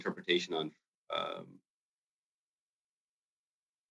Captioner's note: speaking French